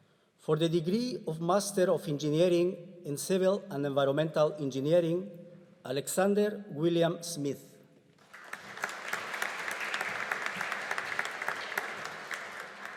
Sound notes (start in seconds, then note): 8.2 audience applauding